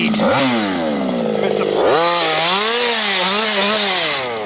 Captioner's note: engine revving